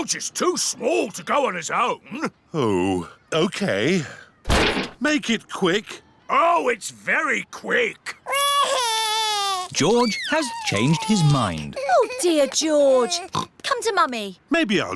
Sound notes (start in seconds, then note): 8.2 crying; 13.0 oinks